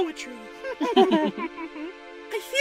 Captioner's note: chuckles